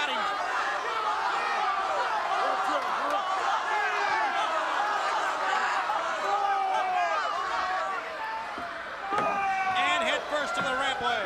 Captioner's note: crowd chatter